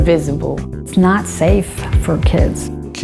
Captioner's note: unknown woman talking